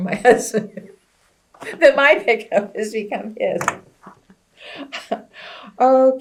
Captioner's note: laughs